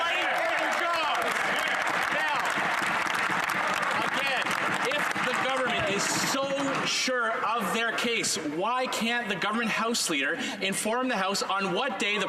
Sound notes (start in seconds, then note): 4.8 some Applause